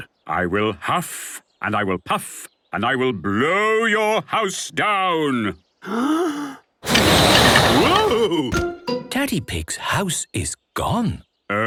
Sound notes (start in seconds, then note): 5.8 inhaling deeply; 6.8 blowing